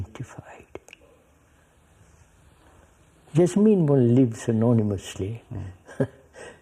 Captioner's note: laughs